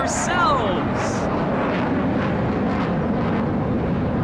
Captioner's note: fighter planes screech overhead